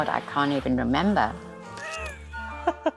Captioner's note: laughs